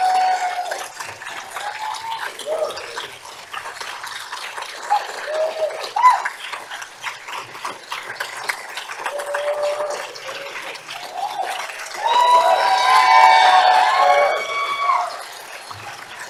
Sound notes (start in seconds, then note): 1.7 applause